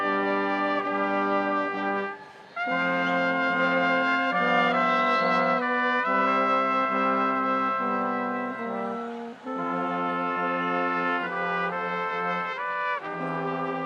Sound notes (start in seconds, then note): none